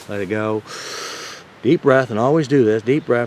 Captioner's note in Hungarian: mély levegő